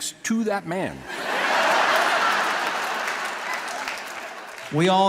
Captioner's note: people laughing